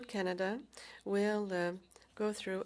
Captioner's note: speaking French